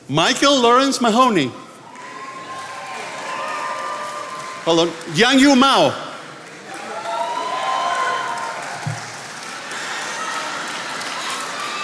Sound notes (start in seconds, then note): 1.9 attendees applauding